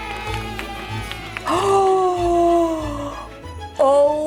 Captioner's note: audience applauding